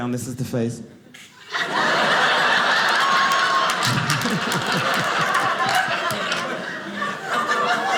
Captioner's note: audience laughing